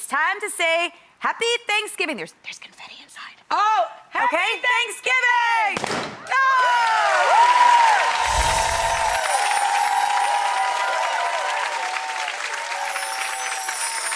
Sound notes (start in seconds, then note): 5.8 balloons pop; 6.8 audience applauds; 8.2 twinkle